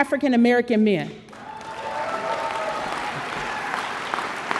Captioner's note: audience applause